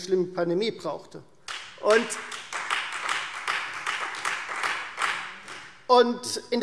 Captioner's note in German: Beifall Freie Demokraten